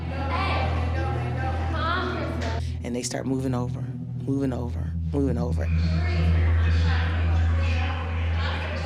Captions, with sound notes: Hey. Come on. And they start moving over, moving over, moving over. [chatter]